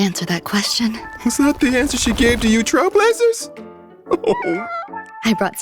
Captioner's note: sob